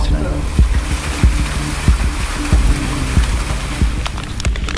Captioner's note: water sloshing